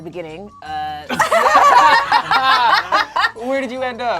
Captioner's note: group laughs